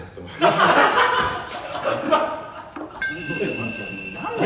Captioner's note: all laugh